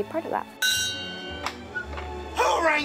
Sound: bell rings

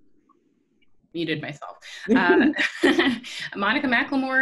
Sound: both laughing

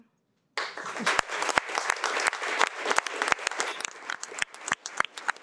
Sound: audience clapping

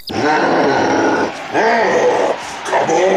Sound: growls

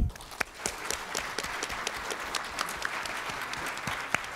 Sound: audience applause

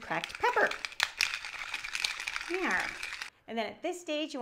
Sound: crackling

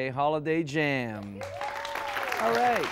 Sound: audience applauding; audience cheering

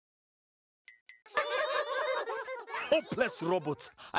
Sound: chuckling

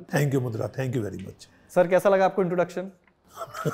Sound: laughter

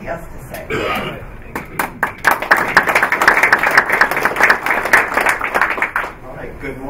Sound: applause

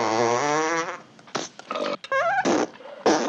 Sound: pfft!; belch; pfft!

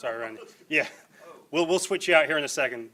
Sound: laughs

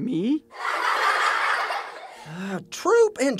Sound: laughter

